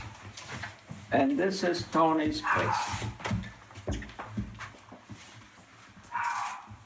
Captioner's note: dog barking